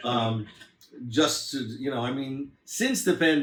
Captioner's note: laughs